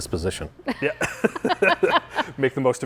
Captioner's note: all laughing